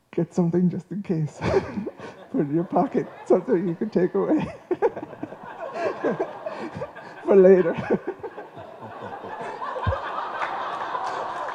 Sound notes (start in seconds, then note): 9.3 laughter